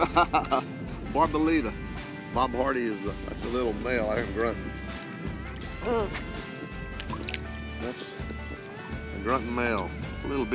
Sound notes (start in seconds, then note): 0.0 laughs; 5.9 fish grunts